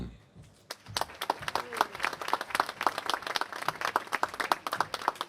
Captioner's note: applause